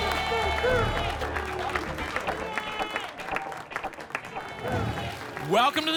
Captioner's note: applause and cheering